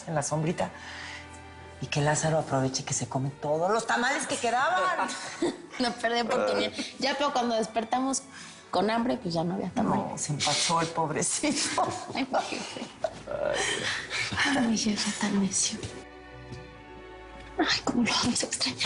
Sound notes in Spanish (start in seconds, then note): 13.1 Risas